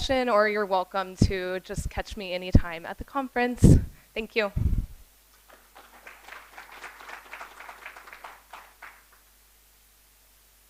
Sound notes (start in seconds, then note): 5.3 applause